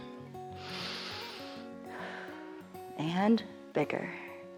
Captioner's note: inhales and exhales